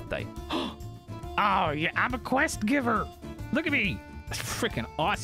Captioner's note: gasps